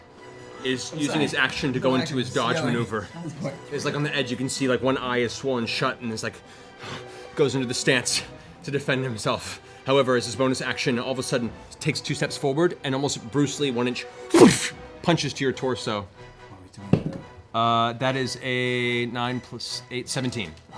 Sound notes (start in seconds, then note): 6.4 deep breath; 14.3 whipping noise